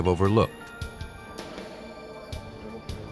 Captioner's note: phone ringing